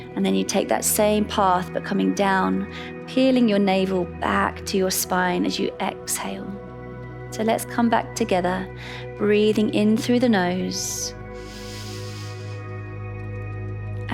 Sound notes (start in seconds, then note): 11.4 inhales